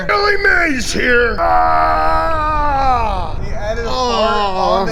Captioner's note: screaming